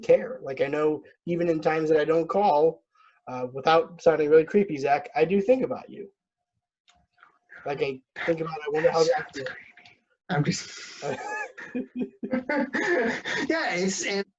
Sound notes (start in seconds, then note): 8.2 whispering; 11.0 laugh